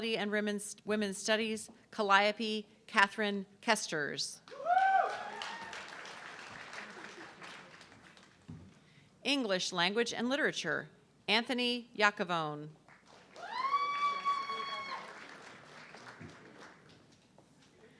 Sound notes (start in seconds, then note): 4.5 audience cheering and clapping; 13.3 audience cheering